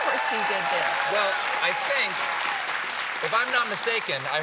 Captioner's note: cheers and applause